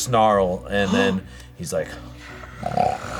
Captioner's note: snarls